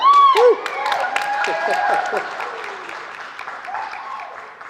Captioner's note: audience applauding